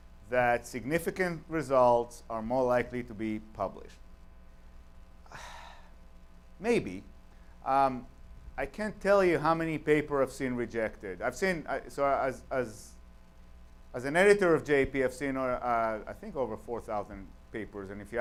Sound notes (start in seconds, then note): 5.2 sighs